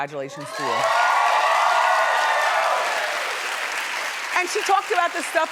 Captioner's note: audience cheering